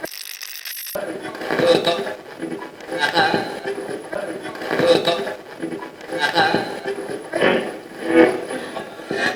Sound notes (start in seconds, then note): 0.0 radio channel changing; 0.5 radio scratching; 4.1 radio voices